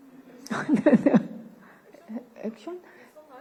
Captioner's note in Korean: 웃음